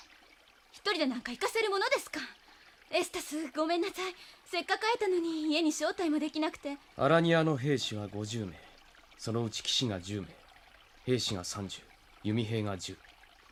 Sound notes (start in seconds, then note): none